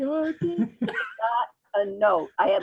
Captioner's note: speaking in faint voice; laughing